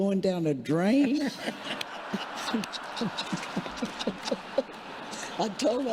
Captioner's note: congregation laughing